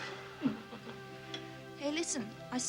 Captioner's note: both chuckling